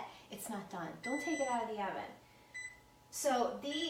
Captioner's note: beeping